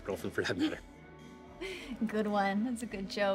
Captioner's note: Keely chuckles